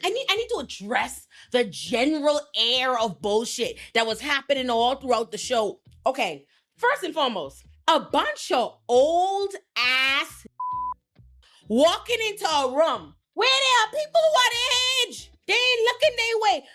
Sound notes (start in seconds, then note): 10.5 beep